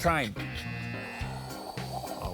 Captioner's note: buzzer; imitates swooshing